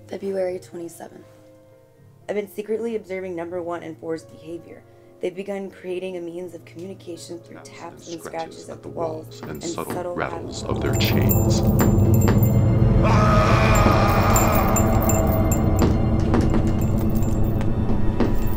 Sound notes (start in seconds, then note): 12.9 screaming; 15.0 tapping